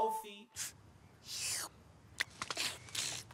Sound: munching; slurping

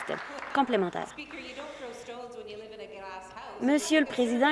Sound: applause

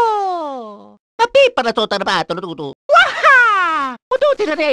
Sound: italian gibberish; more Italian gibberish

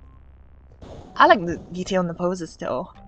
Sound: thunder strikes

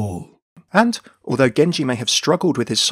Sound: voiceover

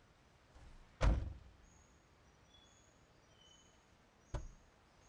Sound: car door slamming

